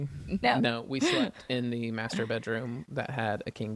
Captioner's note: laughs